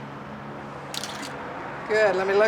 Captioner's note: shutter clicks